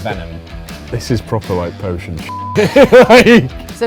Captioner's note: beep